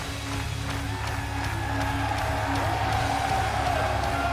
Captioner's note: clapping; cheers & applause